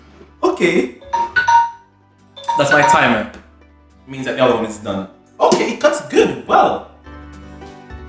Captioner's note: beeping sound